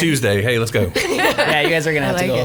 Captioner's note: group laughing